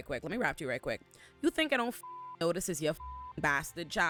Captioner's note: beep